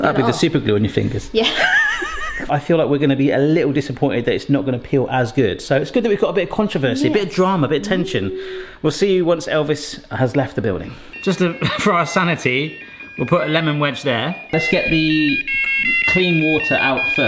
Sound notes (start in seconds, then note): 1.5 laughs; 14.0 timer beeping melodically